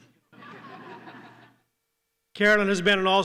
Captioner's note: laughter